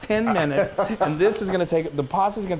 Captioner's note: laughing